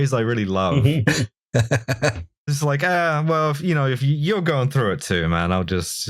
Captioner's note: laughter